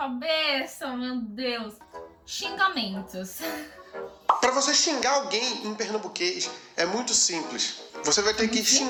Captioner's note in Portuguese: risos